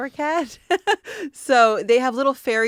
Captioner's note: laughing